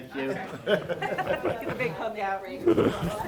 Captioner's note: group laughing